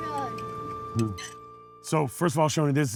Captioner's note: fork scrapes